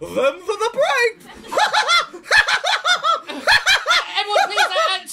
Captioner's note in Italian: risata malefica da clown